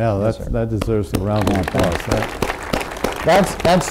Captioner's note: group applause